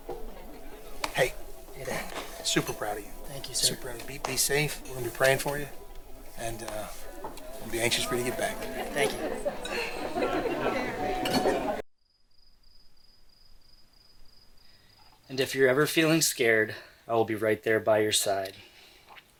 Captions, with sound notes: - Hey. - Hey. - Super proud of you. - Thank you, sir. - Super. And be safe, we're gonna be praying for you. And we'll be anxious for you to get back. - Thank you. (people chattering) (crickets chirping) "And if you're ever feeling scared, "I will be right there by your side."